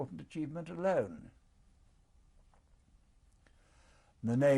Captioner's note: pauses for 3 seconds